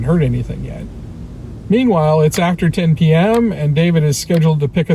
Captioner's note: ticking sound starts